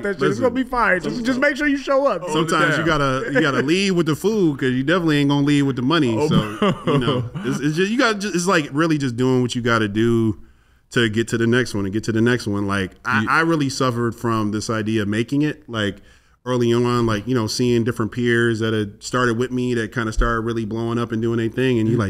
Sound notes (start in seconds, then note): 6.1 laughs